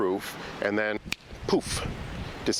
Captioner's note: fingers snap